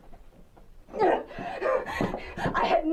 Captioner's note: heavy breathing